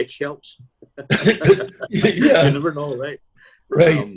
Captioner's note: laughter